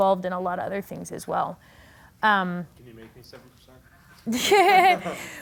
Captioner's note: laughing